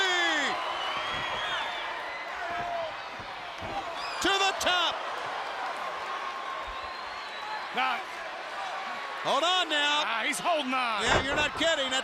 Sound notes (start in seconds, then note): 1.7 crowd chatter